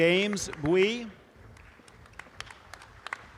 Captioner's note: audience applause